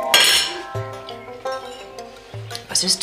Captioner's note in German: Lässt Besteck fallen